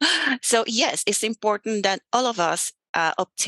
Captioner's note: laughs